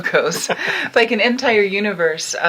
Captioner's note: laughing